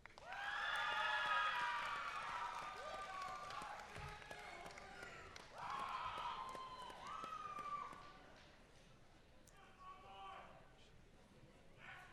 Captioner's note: applause